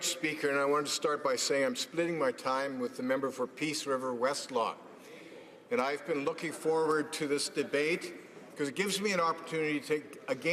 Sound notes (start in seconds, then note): none